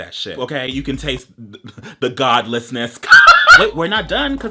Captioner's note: laughs